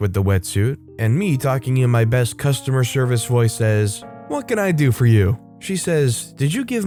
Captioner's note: talking to EM in my best customer service voice